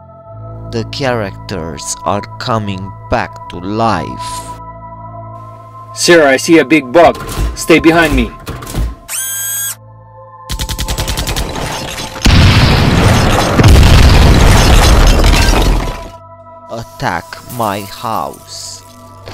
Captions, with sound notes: The characters are coming back to life. Sir, I see a big bug, stay behind me. [heavy machine gun] [explosion] Attack my house.